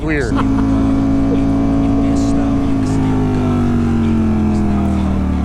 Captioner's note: engine revving